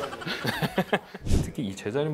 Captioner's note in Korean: 웃음